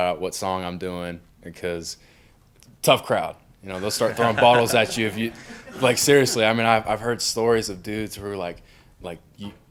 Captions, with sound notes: what song I'm doing because tough crowd. (crowd laughs) You know, they'll start throwing bottles at you if you, like seriously. I mean, I've heard stories of dudes who were like,